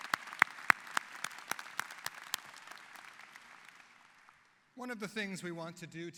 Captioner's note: applause